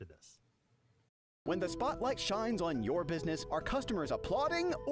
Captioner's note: voiceover